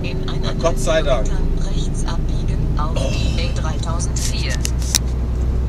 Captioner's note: setnav talking